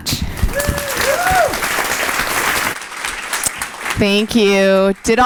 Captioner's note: audience applauding